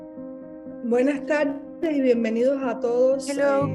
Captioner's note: speaking in Spanish